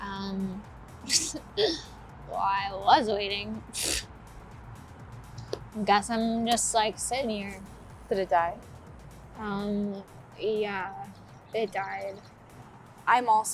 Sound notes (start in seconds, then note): 1.5 Thea chuckles; 3.7 scoffs